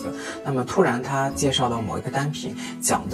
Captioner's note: Korean